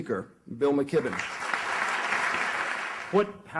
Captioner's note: audience clapping